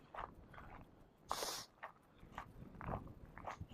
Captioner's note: gravel crunching